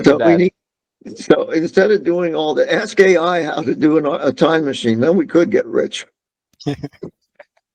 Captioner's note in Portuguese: risos